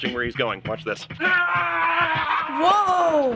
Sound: yelling

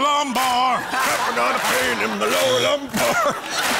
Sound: laughs

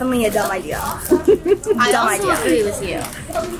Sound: laughs

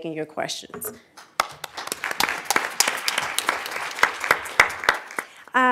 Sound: applause

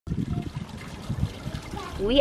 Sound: trickling water

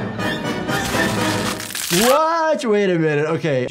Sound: scrunching sounds

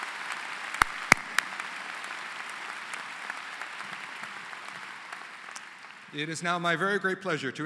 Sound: applause

